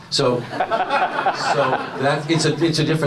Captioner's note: audience laughs